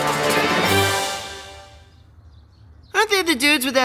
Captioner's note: crashing